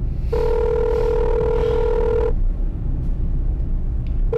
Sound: phone rings

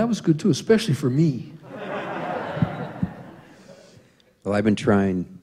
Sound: laughter

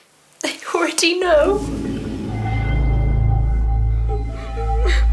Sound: sobbing; suspenseful music

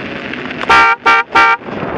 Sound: honk honk honk

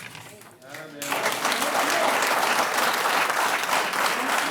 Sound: audience clapping

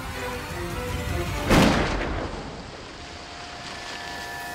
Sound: gunshot

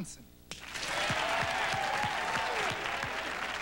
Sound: applause

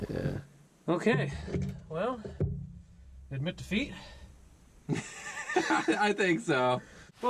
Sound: laughs

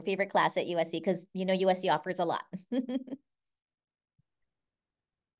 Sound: chuckles

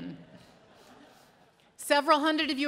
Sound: audience laughing

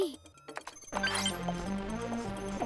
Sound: clicking, beeping

